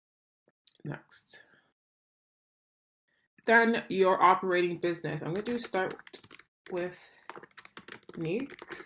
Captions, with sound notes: Next. Then, your operating business. (keyboard clicks) I'm going to do "Start with Niques."